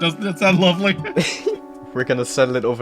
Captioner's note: chuckling